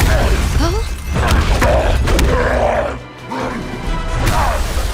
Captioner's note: grunting